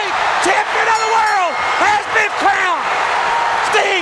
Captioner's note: bell chiming